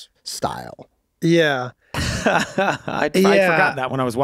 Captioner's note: laughs